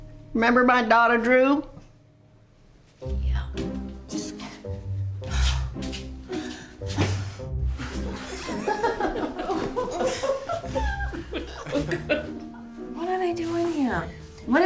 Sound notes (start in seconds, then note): 8.0 everyone laughing